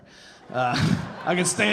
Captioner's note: audience laughing